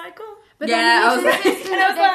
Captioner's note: laughs